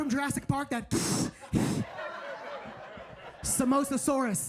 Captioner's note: hissing; audience laughing